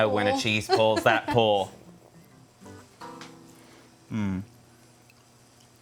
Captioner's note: laughing